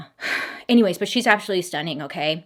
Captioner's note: sighing